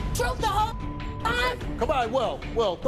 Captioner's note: beep